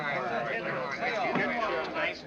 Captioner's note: all chattering